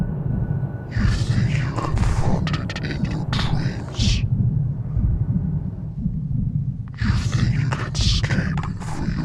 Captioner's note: voice echoed